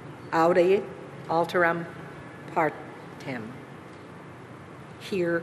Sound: speaking alternate language

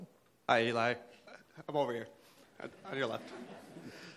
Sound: voiceover

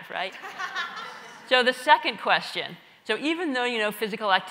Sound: laugh

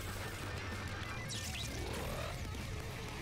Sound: zombie noises

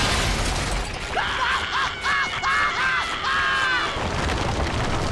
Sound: screaming

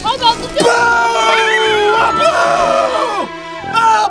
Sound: screams

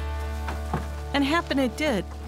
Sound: corn stalk rustling

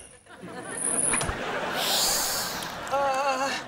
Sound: hissing

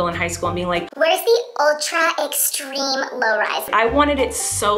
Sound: cartoon voice

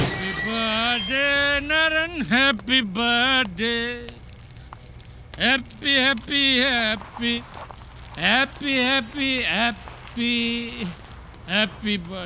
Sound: drunk

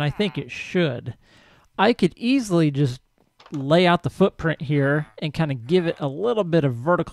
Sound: villager chatters

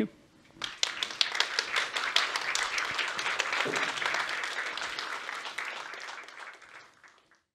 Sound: applause

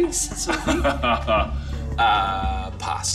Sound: Max laughs

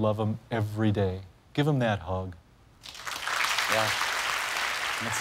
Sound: cheers and applause

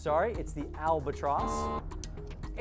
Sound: error buzzer

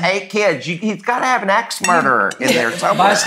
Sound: laughs

